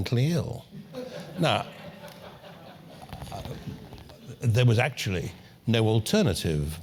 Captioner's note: laugh